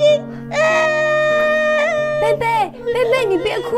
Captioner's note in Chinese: 哭声